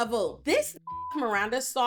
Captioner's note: beep